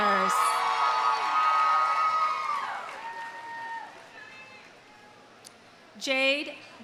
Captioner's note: audience cheering; audience applauding